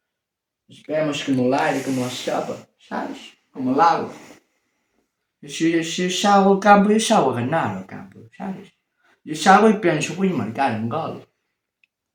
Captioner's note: blah blah blah in whispers